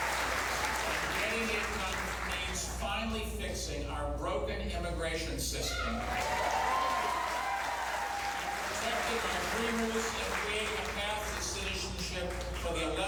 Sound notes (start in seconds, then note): 5.7 cheers and applause